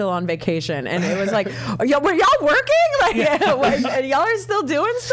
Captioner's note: all chuckling